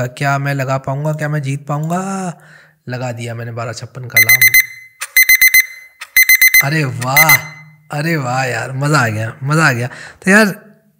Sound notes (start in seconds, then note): 4.1 alarm beeps; 4.1 beeping continues